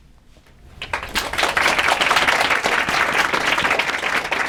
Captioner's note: applause